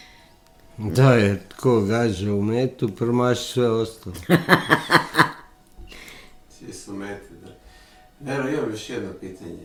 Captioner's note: laughter